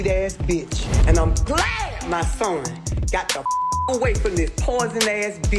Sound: beep

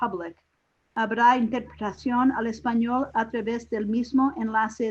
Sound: speaking in Spanish

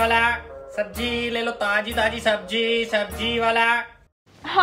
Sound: vegetable Itinerant Shouting

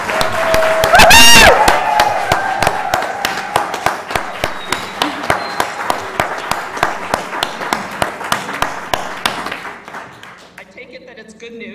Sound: laugh

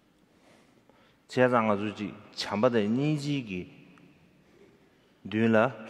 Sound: speaking in foreign language

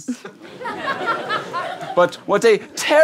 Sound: giggles

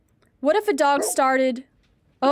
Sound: Blocker barks

